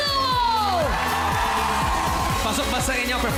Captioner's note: crowd cheering